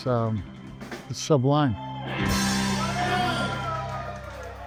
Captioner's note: crowd cheering